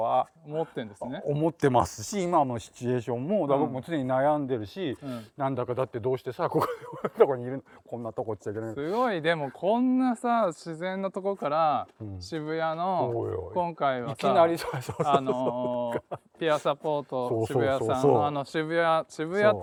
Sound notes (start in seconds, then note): 8.4 laugh